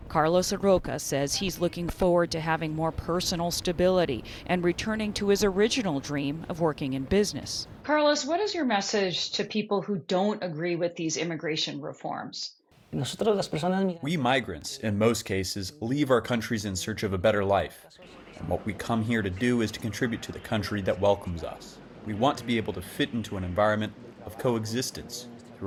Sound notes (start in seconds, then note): 13.9 through translator